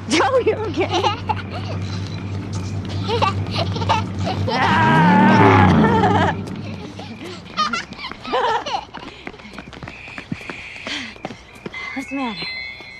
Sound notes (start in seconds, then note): 7.0 engine revving; 10.0 Amy laughing